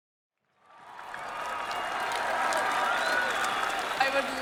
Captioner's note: crowd cheering